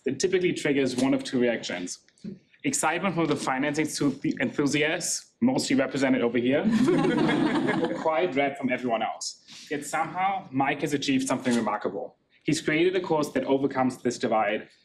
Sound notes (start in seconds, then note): 6.6 laughing